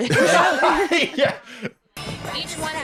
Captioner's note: laughs